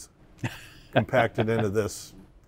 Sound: laughs

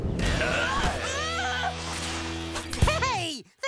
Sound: crying out

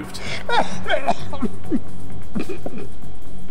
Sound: laughing, then choking

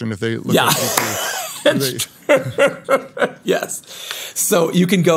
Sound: laughs

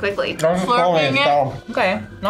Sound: mumbles

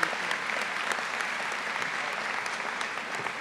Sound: applause

